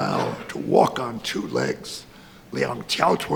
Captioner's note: speaks in foreign language